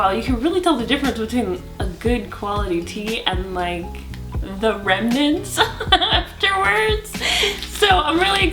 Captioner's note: laughs